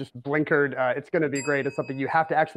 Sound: bell dings

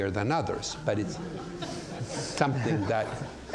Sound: audience laughs

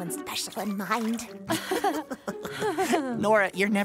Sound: nervous laughter

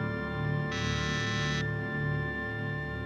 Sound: buzzes

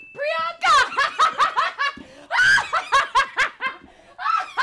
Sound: yells and laughs

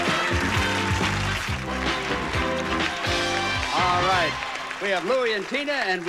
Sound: audience applauding

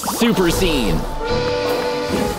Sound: whistle blowing

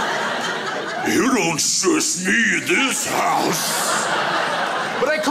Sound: demonic voice; crowd laughs

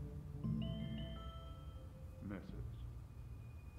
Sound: phone bleeps in distance and says, "message"

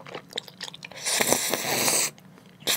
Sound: slurping

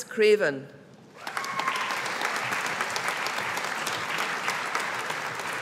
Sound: audience applauding

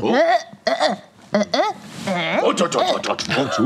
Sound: grunting; grunts negatively; grunting

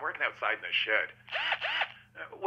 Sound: drilling

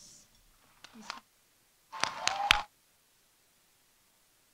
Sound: audience applauding

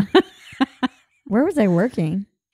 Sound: laughing

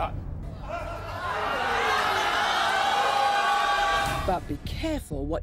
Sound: audience yells and boos

